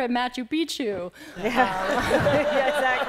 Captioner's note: laughter